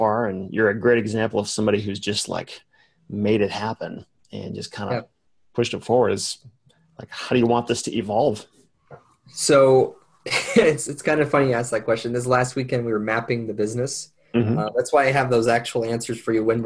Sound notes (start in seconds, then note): 10.3 chuckles